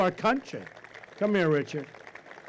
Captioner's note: applause